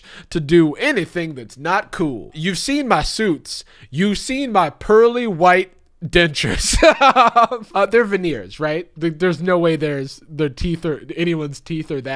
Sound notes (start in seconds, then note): 6.4 laughs